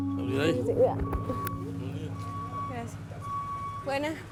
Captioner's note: vehicle beeping